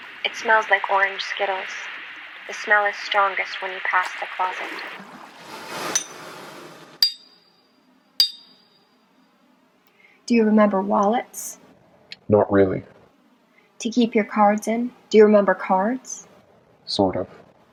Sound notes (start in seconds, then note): 3.9 water sloshing; 6.2 hammering